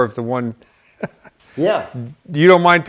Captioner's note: laughter